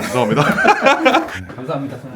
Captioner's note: laughs